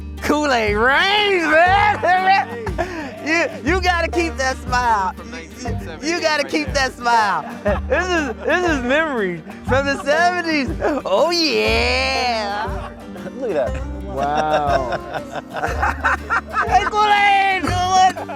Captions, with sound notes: Kool-Aid, right? (laughing) Yeah, you gotta keep that smile. You gotta keep that smile. This is Mary, from the 70s, oh yeah. - Look at that. - Wow. (laughing) - Ain't gonna, you know what?